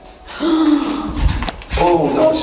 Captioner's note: gasping